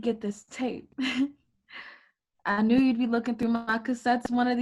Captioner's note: giggles